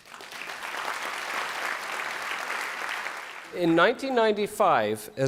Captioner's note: laugh